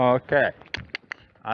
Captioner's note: cluck